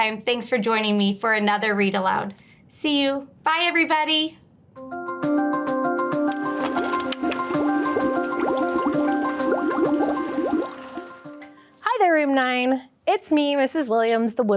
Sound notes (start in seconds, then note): 4.7 liquid bubbling; 4.8 bright music